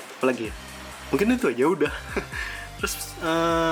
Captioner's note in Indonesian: tertawa